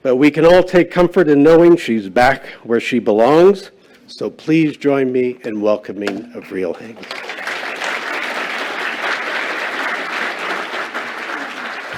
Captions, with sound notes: But we can all take comfort in knowing she's back where she belongs. So please join me in welcoming Avril Haines. [APPLAUSE]